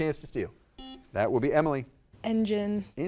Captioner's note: buzzer dings